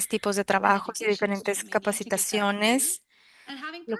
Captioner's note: speaking spanish